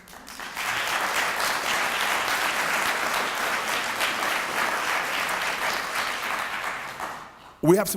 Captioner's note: applause